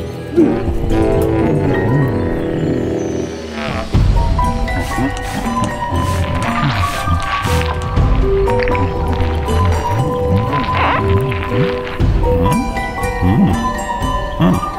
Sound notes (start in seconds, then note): 4.5 spray can hisses